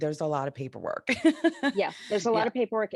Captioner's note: laughing